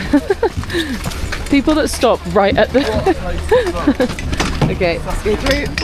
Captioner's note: giggles; laughs